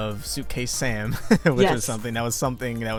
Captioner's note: chuckles